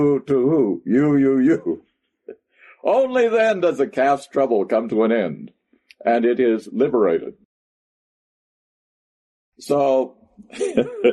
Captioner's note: laughs